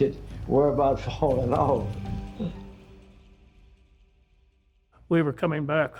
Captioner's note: laughs